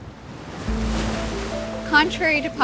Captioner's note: waves sounding